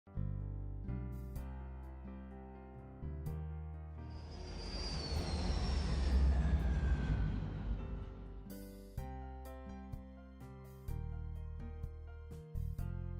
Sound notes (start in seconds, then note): 0.0 inspirational Piano Music; 4.1 airplane Noises